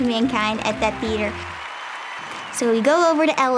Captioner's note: audience cheers